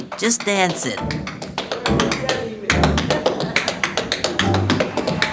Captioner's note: rhythmic tapping